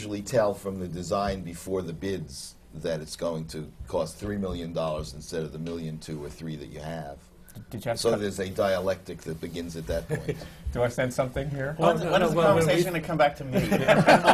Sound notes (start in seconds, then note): 9.9 laughs